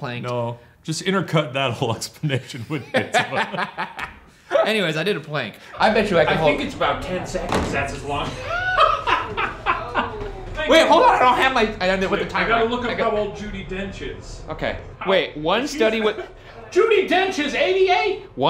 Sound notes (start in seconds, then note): 2.5 laughing; 8.0 laughing